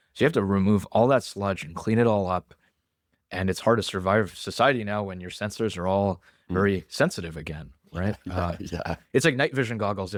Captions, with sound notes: you have to remove all that sludge and clean it all up. And it's hard to survive society now when your sensors are all- ... very sensitive again. Right? [laughs] Yeah. Uh, it's night vision goggles.